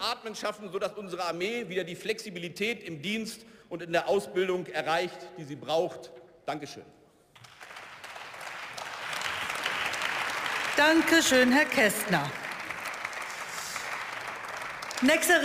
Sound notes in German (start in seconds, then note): 7.3 Beifall